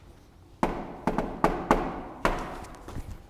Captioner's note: knock, knock